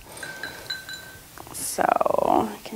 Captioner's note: clattering gently